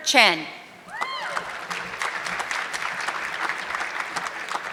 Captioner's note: audience clapping